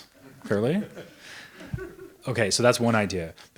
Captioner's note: audience members laughs